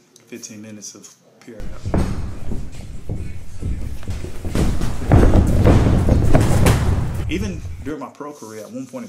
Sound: training sounds - someone getting thrown to the mat in the cage

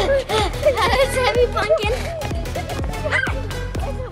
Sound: gasping; shouting

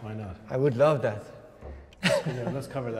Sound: laughs

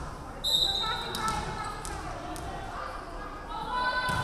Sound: referee whistling

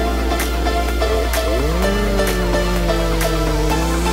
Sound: chainsaw roars

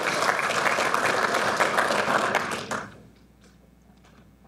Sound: audience applauding

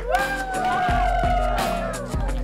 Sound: cheering; R&B music

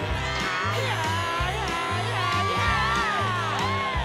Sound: cheering

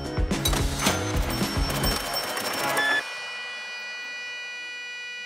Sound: register chimes; whirring music

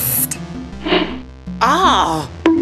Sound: throwing sound; bonk

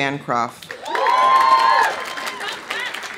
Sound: audience applauding; audience cheering

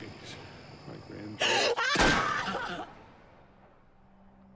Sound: sobs, screams; gunshot

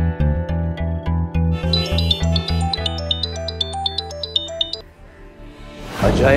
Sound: phone rings

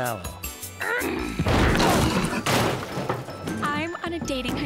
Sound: growls

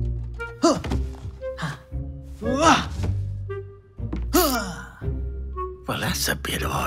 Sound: grunts

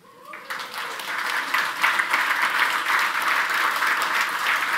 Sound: audience applauding

